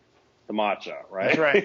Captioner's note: laughing